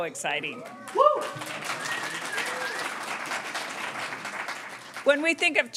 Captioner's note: students cheering and applauding